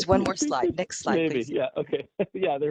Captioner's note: laughter